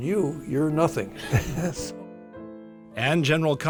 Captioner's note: laughs